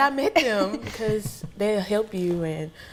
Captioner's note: laughing